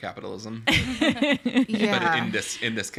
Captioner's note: all laugh